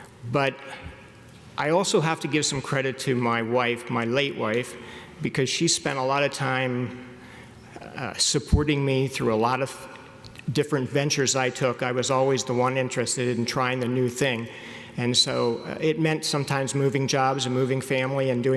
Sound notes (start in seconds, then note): none